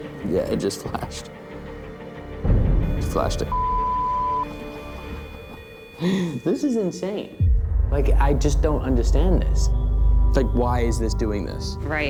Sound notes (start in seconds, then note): 2.9 beeping